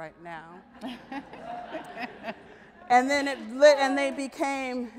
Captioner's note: audience laughs